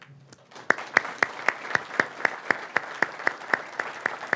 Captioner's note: audience applauding